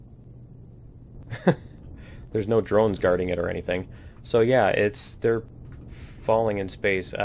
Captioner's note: laughs